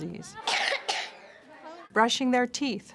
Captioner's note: coughing